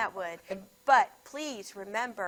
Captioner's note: none